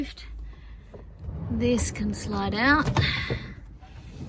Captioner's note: drawer rollers rumble quietly